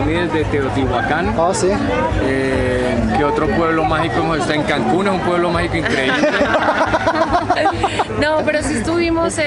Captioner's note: laughter